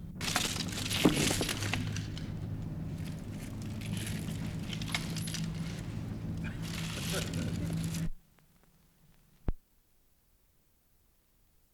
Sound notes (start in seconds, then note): 0.2 chain noises